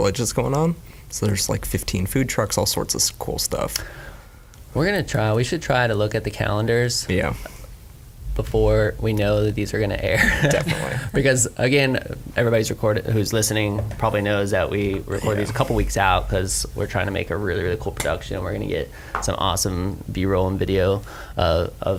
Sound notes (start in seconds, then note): 10.2 laughs